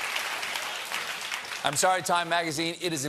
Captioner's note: applause